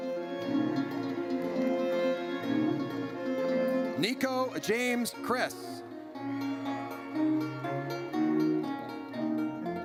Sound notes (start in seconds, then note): 0.2 triumphant music; 6.0 horn blares